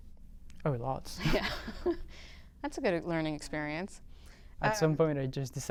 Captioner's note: laughter